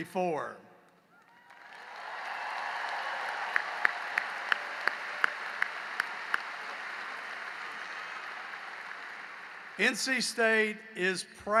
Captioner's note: cheering and applause